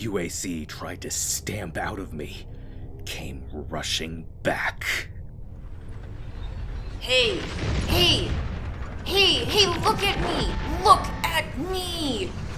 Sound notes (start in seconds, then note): 5.2 sounds of dystopian cyberpunk warfare; 5.7 crash